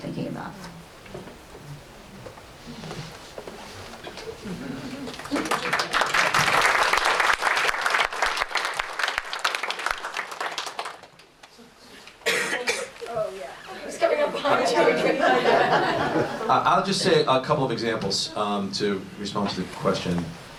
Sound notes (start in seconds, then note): 5.1 applause